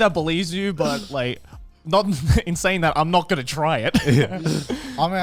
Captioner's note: chuckles